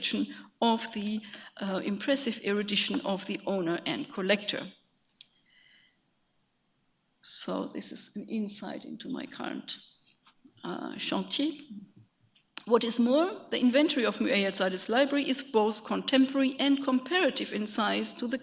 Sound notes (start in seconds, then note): 9.5 speaks a foreign language